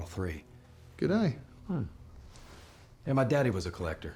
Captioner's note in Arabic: لهجة اسكتلندية